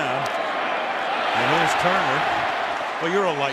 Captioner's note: cheering